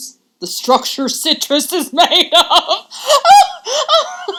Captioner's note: laughing